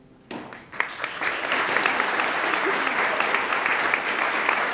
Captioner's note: audience applauds